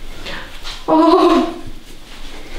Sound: the girl screams after massage

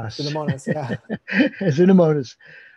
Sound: chuckles

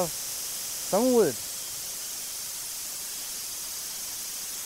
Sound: machine sawing

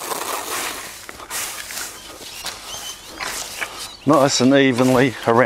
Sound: leaves rustle

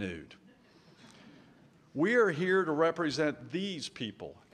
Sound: light laughter

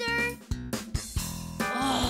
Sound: groans

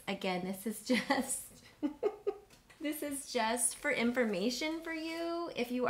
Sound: laughs

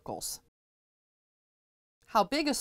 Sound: no Sound Present

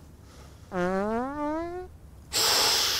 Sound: fart

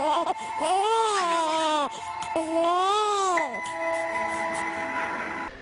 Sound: crying

